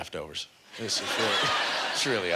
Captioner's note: audience laughter